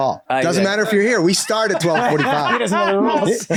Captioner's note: all laughing